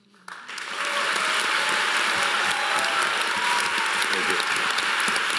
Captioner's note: audience applauding